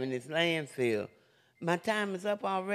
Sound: alarm beeping

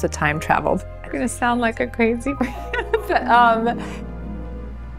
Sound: laughs

